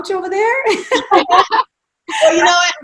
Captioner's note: laughing